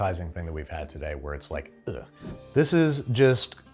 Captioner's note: air whooshes